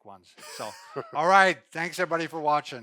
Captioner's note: laughs